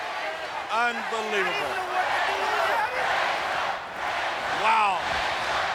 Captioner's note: crowd cheering